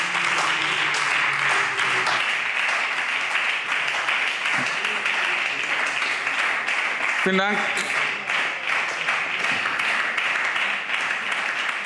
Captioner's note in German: Anhaltender Beifall SPD und Freie Demokraten